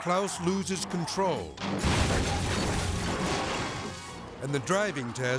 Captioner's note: car crashes